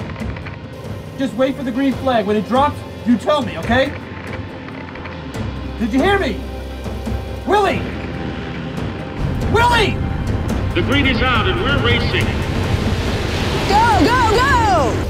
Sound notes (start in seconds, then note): 3.2 static crackling